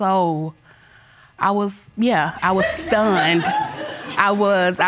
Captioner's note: audience laughs